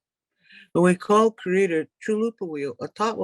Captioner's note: speaks in native language